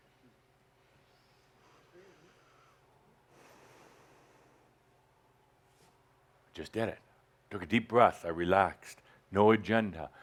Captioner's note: Adamus takes a deep breath and breathes gently and deliberately onto the ring